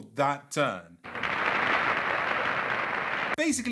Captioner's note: applause